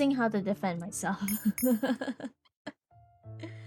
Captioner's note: laughs